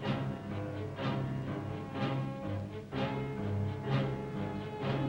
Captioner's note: none